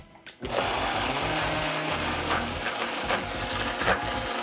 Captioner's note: blender whirring